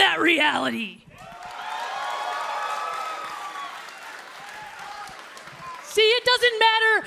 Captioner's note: crowd cheering